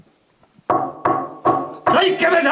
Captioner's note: door banging